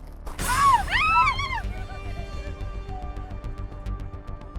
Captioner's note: person screaming